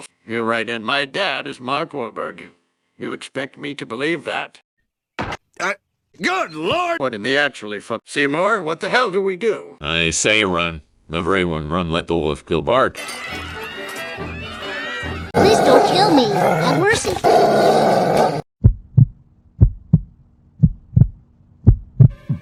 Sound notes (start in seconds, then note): 17.5 growling; 18.6 heart Beating